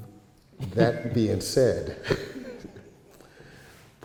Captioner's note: audience chuckles